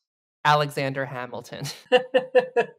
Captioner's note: chuckles